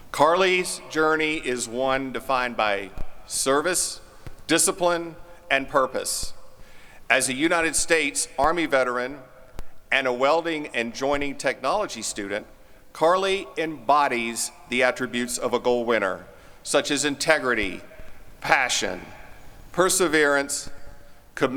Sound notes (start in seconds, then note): none